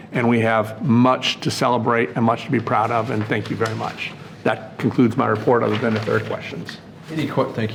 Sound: none

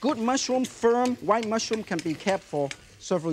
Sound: wok clinking

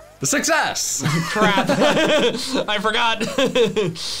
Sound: laughs; chuckles

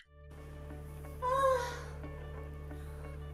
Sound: yawn

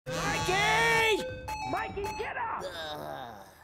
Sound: buzzing, chiming

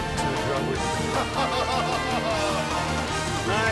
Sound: laughing

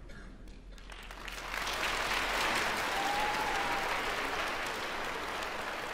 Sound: applause & cheers

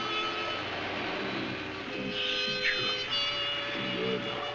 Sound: grunting

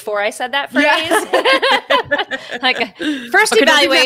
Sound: both laughing

